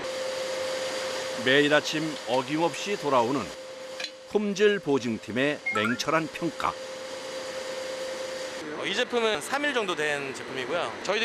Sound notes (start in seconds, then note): 4.5 bubbling